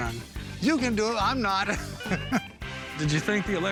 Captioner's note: chuckles